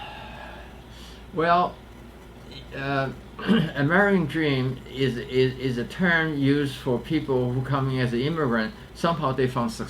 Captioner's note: sighs